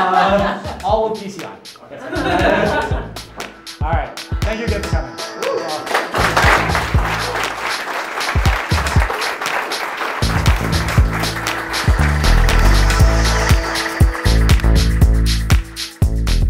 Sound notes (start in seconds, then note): 6.0 crowd applauds; 9.4 electronic music